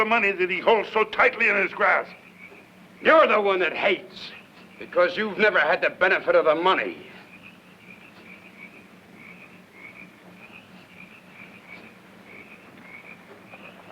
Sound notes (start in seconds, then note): 7.5 insects chirping